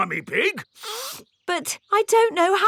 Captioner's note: sniffs